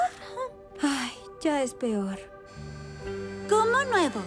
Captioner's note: sigh